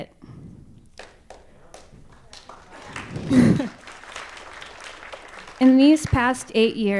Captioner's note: applause